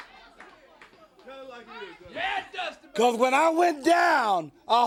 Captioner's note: crowd chatter